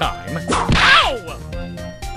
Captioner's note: whip crack!